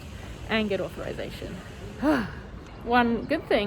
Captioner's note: sighs loudly